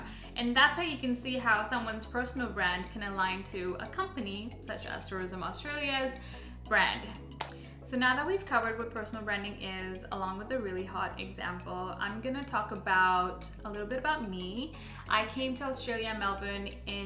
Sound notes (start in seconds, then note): 7.4 awkward clap